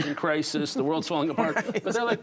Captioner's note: laughter